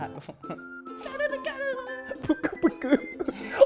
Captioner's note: giggling